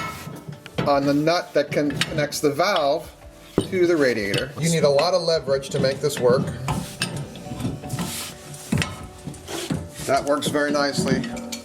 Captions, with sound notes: that connects the valve to the radiator. You need a lot of leverage to make this work. (metal clunking) That works very nicely.